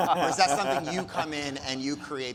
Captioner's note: speakers laughing